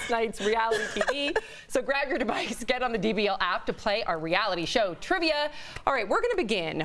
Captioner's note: laughter